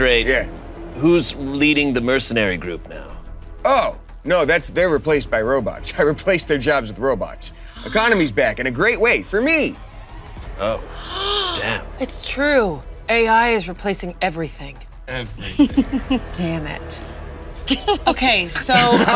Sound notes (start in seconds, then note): 11.0 Dolores gasps; 15.4 chuckles